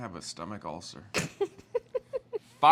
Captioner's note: laughs